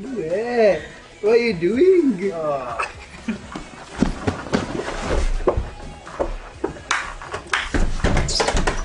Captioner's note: laughing; laughing